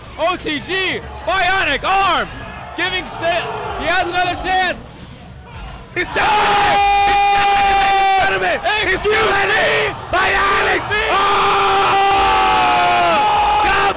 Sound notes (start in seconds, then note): 6.1 yelling; 11.2 yelling